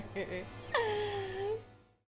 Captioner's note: laughing